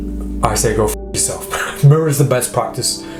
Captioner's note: swearing